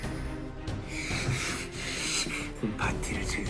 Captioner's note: huffing and puffing